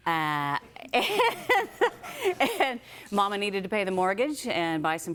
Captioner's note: laughing